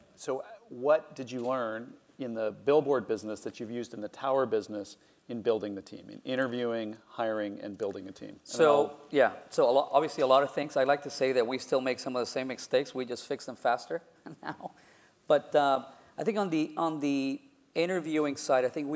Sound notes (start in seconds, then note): 14.3 laugh